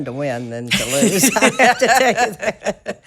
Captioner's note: both laughing